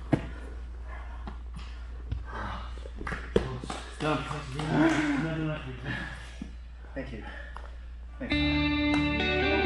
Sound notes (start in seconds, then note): 5.8 pants